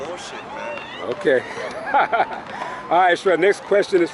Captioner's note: laughs